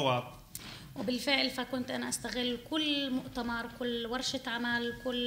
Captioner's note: speaking arabic